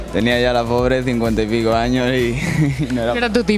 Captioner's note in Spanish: risas